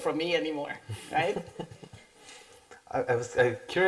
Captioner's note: chuckles